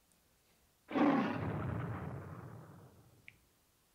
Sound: offscreen roar

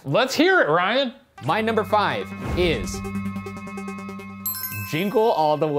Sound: bell dinging

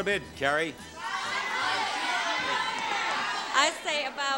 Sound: audience shouting

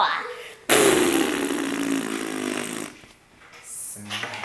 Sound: farting

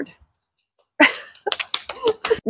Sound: lauging

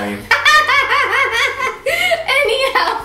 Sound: chuckles

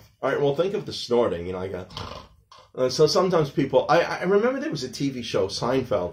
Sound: snorting sounds

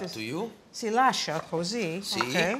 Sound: italian

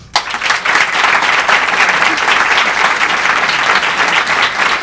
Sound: crowd clapping

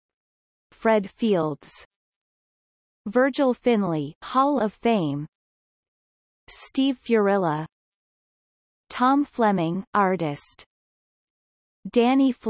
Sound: in German

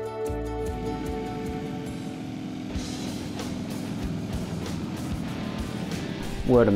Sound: motorcycles revving

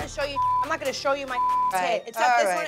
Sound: beep

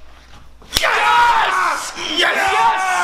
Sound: cheering

